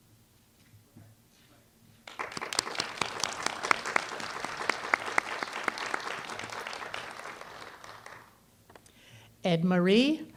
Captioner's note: applause